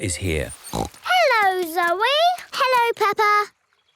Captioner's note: snorts